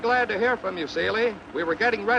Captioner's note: man On Radio